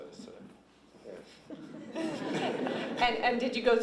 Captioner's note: laughter